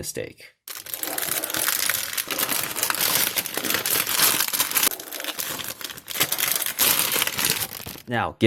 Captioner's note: bag-opening noises